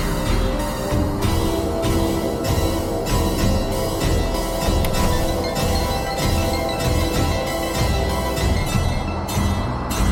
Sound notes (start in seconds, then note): 4.8 clicking